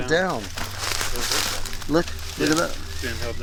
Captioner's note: rustling leaves